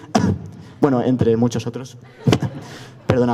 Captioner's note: cough among others cough